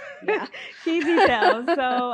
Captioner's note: laughs